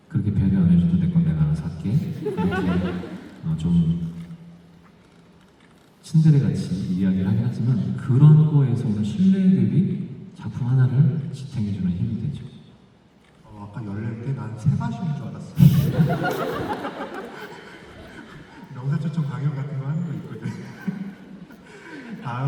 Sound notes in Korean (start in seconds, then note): 15.6 웃음